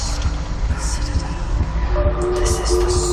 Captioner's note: whispering